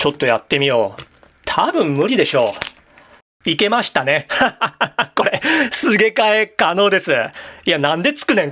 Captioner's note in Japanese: 笑い